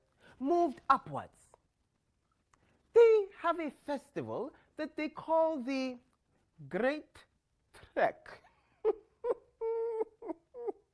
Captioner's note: laughs quietly